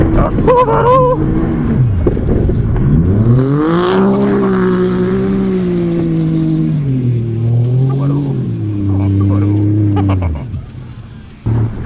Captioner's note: engine revving